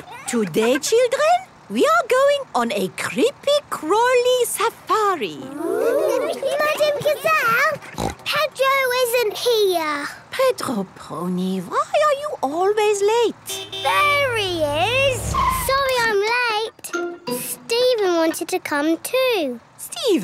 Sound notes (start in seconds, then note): 7.7 snort; 13.4 honking